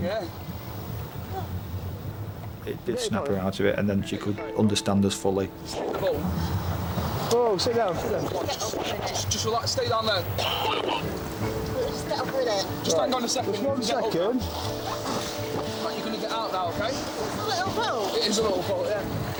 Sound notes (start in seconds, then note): 0.8 whimpers; 10.5 radio vocalizing